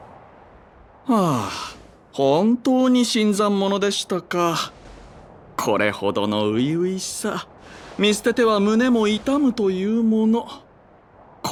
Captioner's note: sigh